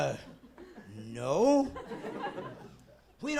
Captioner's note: laughing